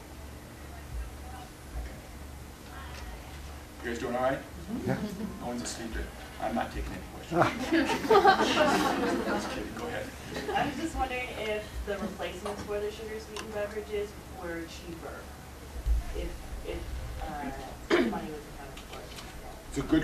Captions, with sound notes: You guys doing alright? No one's asleep. I'm not taking any questions. (laughter) I'm just kidding, go ahead. - I was just wondering if the replacements for the sugar sweetened beverages were cheaper, if money was problem for them.